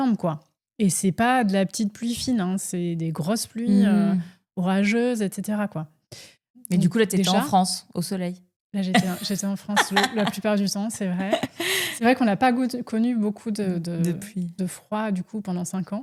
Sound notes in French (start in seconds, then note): 9.7 rires